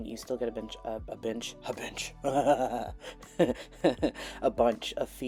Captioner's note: unhinged husky laughter